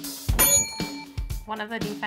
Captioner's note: upbeat music; bell rings